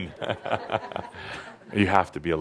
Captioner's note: chuckles